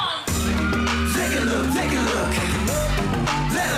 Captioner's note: audience cheering